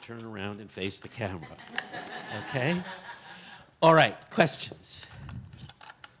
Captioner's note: audience chuckles; cheerfully